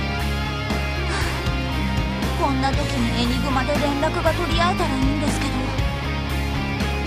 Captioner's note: sigh